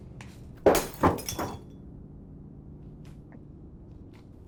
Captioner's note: breaking glass